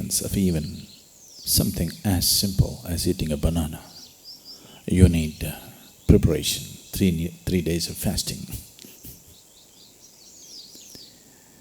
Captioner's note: laughs